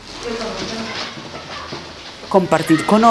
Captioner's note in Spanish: Sonido de voces y bolsas plásticas; Sonidos de pasos